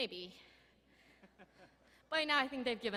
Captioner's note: faculty laughing